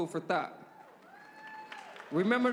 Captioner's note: cheers